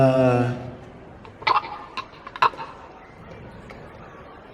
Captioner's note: gagging/choking sounds